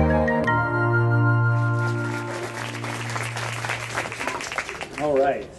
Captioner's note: applause